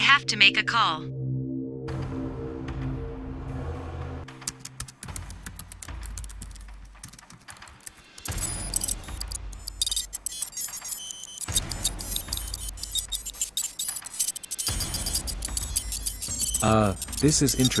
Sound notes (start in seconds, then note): 4.1 keyboard sound and scanning signals